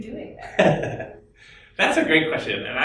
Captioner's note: laughs